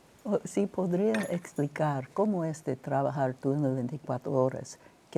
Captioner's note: speaking Spanish